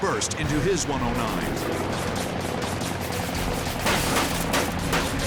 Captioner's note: guns firing